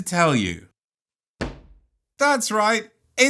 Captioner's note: cards thud